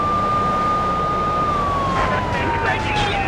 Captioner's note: engine roaring